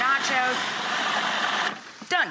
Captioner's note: food processor whirling